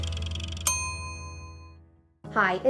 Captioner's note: timer dings